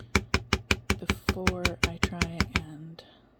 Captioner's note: more tapping; tapping